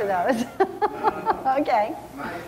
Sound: laughing

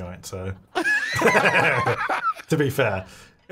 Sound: laughing

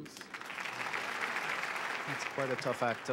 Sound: applause

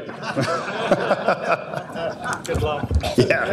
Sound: audience laughing

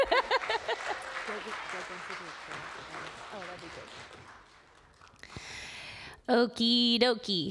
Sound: applause

